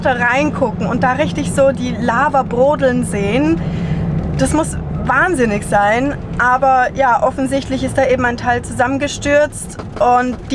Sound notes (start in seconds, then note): none